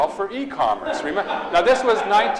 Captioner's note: audience laughs